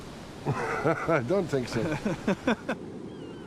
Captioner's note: laughing